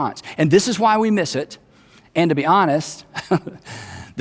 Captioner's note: chuckles